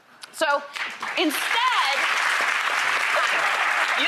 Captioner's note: applause